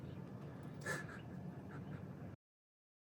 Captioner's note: nervous laughter